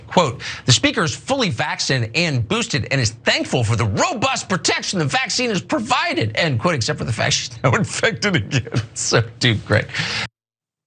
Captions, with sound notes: Quote, the speaker is fully vaccinated and boosted and is thankful for the robust protection the vaccine is provided, end quote. Except for the fact that she's now infected again, [LAUGH] so great.